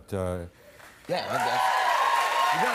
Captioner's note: cheers and applause